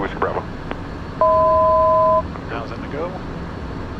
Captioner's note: 1,000 foot tone